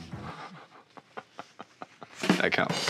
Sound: giggles; punchline drum sound

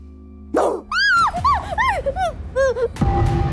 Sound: screams

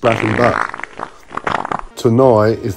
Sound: fart squelching

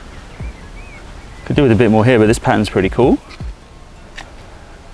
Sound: none

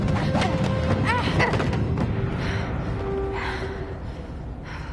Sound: girls groaning

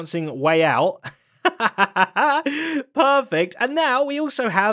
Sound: laughs

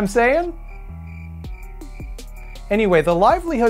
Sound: cricket sounds

